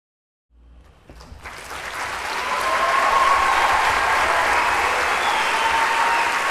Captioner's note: audience applauds and cheers